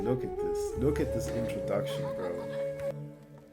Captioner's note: soothing flute music playing; women giggling